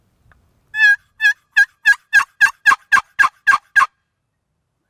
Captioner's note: turkey calling